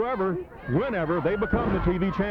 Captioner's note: body thudding